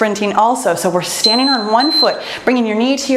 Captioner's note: timer beeps